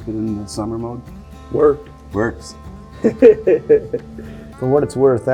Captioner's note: chuckling